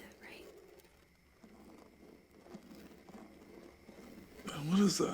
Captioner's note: scraping